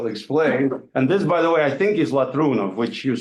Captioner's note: speaks in foreign language